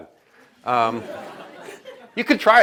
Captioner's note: laughter